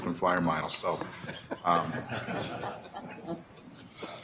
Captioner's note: laughing